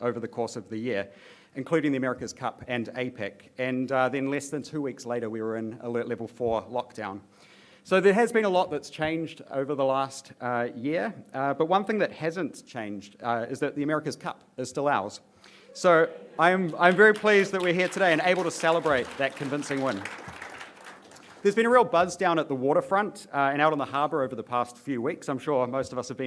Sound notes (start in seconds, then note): 16.5 applause